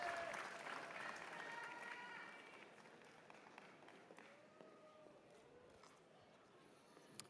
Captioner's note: cheers and applause